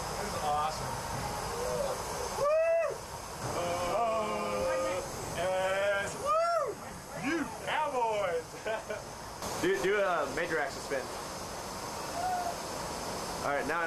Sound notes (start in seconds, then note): 2.3 yelling; 9.3 chatter